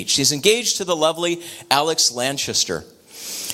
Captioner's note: none